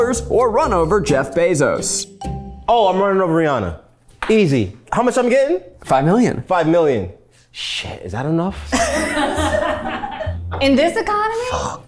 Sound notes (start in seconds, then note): 8.6 everyone laughs